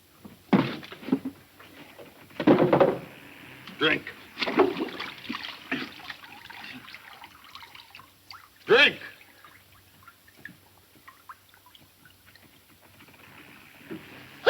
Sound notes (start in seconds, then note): 4.3 water splashing